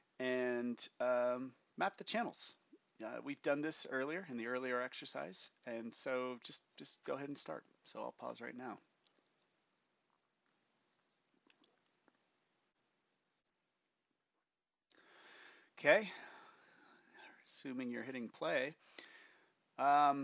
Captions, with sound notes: And map the channels. We've done this earlier in the earlier exercise and so just go ahead and start, so i'll pause right now. [Silence] Okay, assuming you're hitting play.